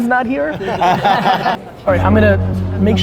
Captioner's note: group laughter